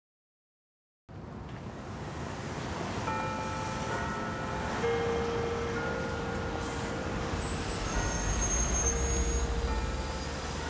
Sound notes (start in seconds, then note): 4.1 bell chiming